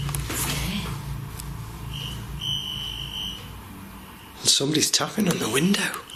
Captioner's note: soft tapping